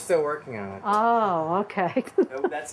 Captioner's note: chuckles